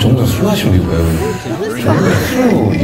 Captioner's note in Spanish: Ja ja ja